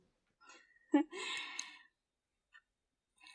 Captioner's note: laughs